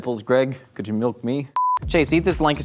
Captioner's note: high pitched beep